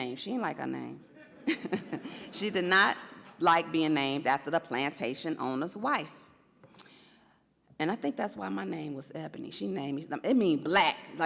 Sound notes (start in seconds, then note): 1.2 audience laughs